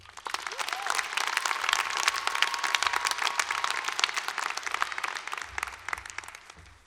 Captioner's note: cheering and applause